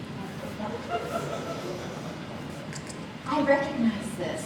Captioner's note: audience laughs